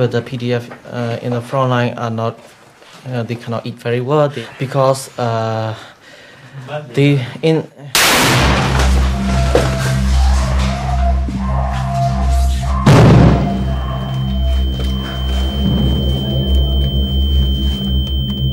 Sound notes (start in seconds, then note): 8.0 bang; 12.6 bang; 16.7 monotonous Whistle